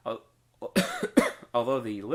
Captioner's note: coughing